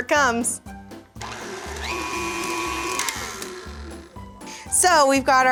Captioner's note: mixer whirring